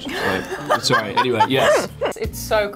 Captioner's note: laughs